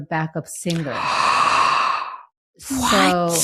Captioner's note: gasps